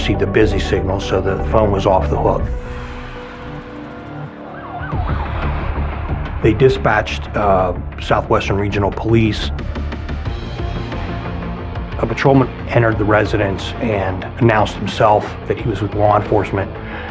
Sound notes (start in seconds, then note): 5.3 sirens wawailing